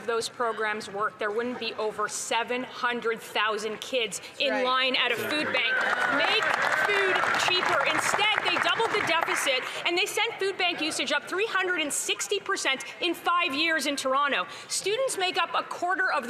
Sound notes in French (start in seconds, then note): 3.2 voix de l'interprète